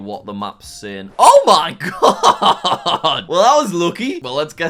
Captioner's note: chuckles